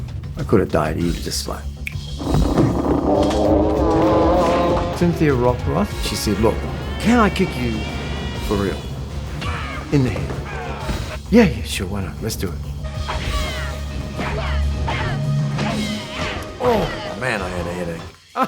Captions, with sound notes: Could've died easy, just like (clicking fingers) (bikes revving) - Cynthia Rothrock she said, "Look, can I kick you for real, in the head?" Yeah, yeah sure, why not? Let's do it. (sound of kicking) Oh, man I had a headache. (laughs)